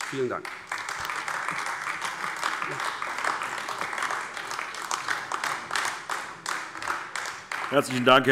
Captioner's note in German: Beifall AfD